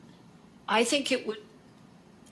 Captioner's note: speaking French